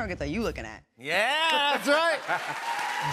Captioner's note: cheers and applause